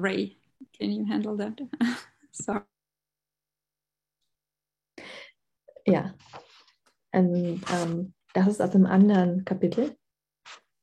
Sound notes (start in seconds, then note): 1.8 laughs; 6.0 speaking german